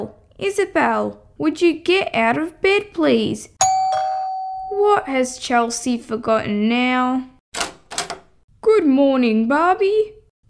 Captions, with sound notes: Isabelle! Would you get out of bed please?! (Doorbell) What has Chelsea forgotten now...? Good morning Barbie